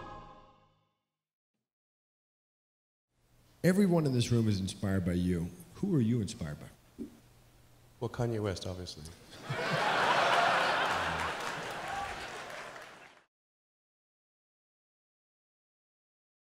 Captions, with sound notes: - Everyone in this room is inspired by you. Who are you inspired by? - Well, Kanye West, obviously. (laughing)